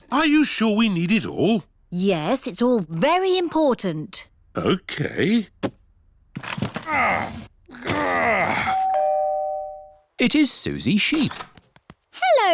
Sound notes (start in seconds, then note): 7.6 groans; 8.7 doorbell rings